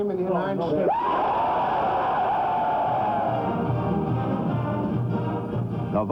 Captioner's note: cheers and shouting